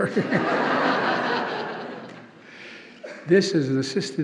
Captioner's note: laughter